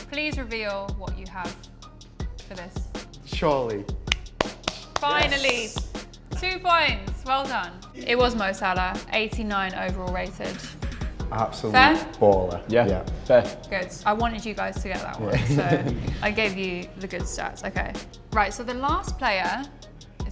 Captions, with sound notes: - Please reveal what you have...for this. - Surely. - [clapping] Finally. - Yes! - 2 points! Well done! It was Mo Salah. 89 Overall rated. - Absolute baller. - Fair? - Yeah. - Yeah. - Good! I wanted you guys to get that one. - [chuckle] - So, I gave you the good stats. Okay. Right. So the last player